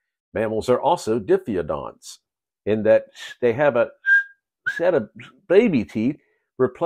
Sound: tooth whistle as you speak

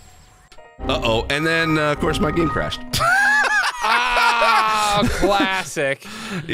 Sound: laughs

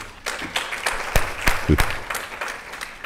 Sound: audience clapping

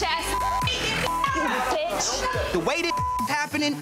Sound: beep; women shouting in background; beep

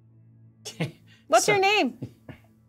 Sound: laughs

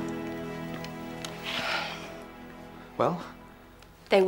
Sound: sighing

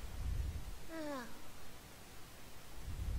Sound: sigh

